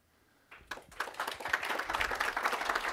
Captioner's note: applause